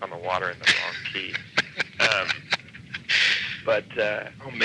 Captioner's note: laughing